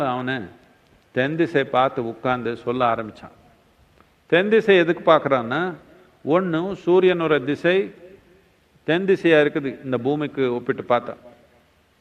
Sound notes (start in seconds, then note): none